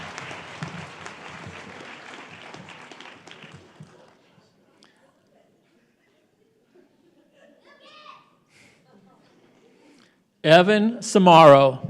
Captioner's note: applause